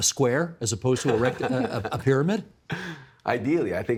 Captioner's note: laughing